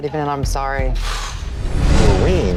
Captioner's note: sighs